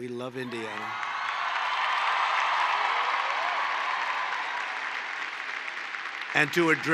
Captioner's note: applause